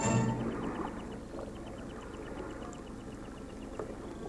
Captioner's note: waves lapping